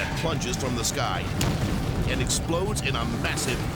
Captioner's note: explosion pounds